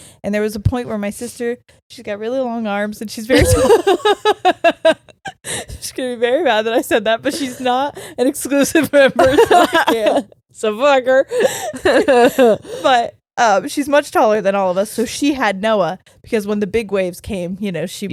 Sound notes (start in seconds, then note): 3.3 laughing